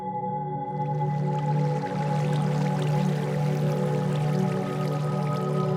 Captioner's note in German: wasser tröpfelt